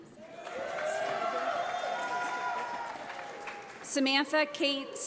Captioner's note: audience applauds